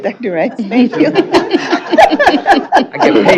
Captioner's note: chatter and laughter